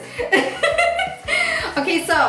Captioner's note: laughing